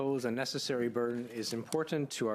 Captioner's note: speaking French